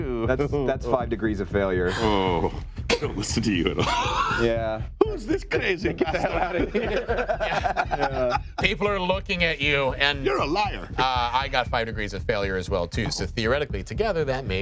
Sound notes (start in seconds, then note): 2.1 groaning; 5.8 laughing